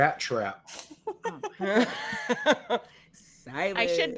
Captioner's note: all laughing